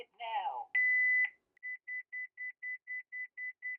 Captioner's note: beeping